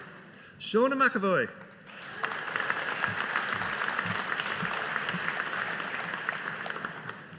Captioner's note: audience applauding